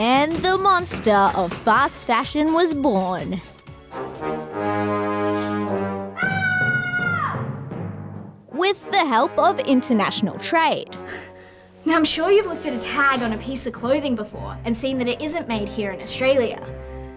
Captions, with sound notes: And the monster of fast fashion was born... (DRAMATIC MUSIC PLAYS) (SCREAMS) ..with the help of international trade. Now, I'm sure you've looked at a tag on a piece of clothing before and seen that it isn't made here in Australia.